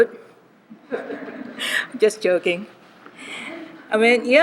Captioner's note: laughter